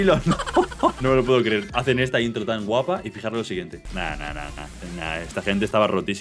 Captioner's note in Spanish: risas